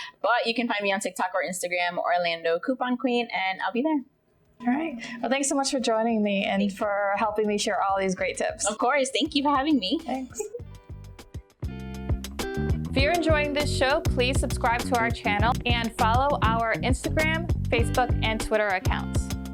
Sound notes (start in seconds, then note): 10.2 chuckles; 11.5 mellow groove music